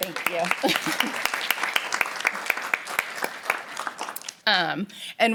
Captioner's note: applause